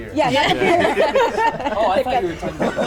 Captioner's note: all laugh